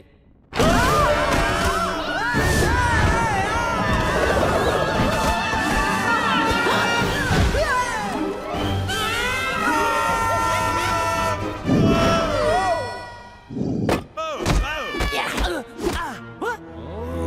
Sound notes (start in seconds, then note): 0.6 all screaming; 11.4 all screaming; 13.9 all grunting